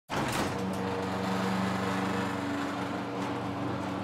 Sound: garage door rumbling

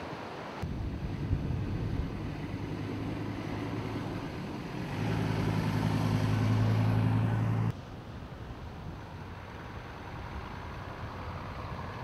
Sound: vehicle sounds

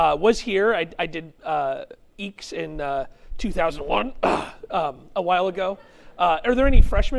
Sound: clears throat

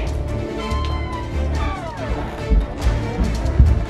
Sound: door creaking

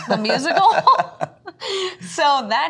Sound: both laughing

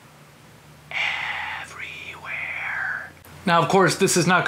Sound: whisper

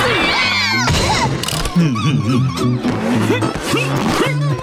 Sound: screaming, thudding; chuckles, grunting

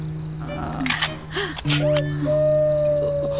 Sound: pistol loading

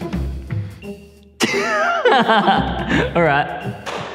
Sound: laughs

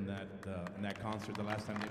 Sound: audience applauding

